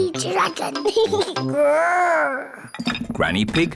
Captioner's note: giggles, growls